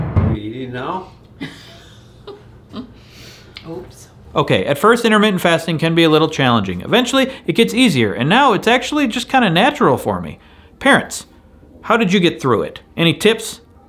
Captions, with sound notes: - We're eating now? (laughing) - Oops. - Okay, at first intermittent fasting can be a little challenging. Eventually it gets easier. And now it's actually just kinda natural for me. Parents. How did you get through it? Any tips?